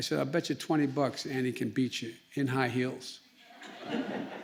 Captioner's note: laughter